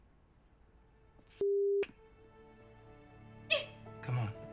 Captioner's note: sobs